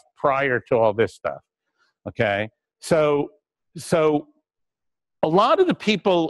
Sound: pause

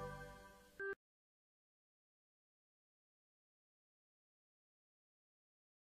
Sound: silence

